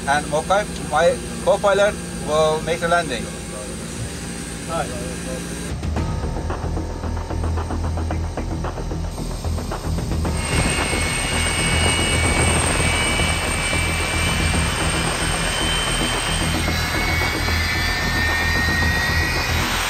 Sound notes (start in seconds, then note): 6.0 tense music; 10.6 aeroplane engine whirring